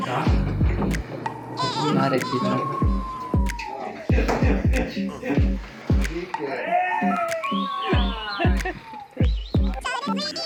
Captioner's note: cheers and swears in Portuguese and in Greek